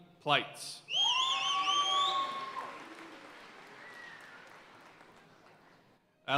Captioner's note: audience cheering and applauding